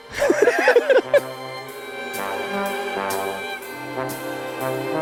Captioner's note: everyone laughing amusingly